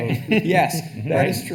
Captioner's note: attendees laughing